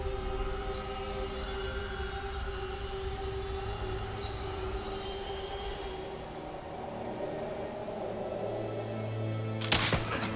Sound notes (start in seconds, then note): 9.6 gunshots